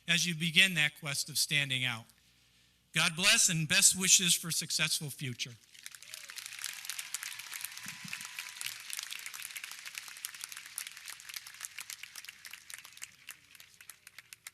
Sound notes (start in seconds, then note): 6.2 audience clapping